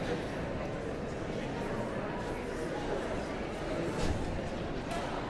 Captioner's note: audience chattering continues